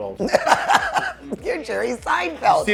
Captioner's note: laughing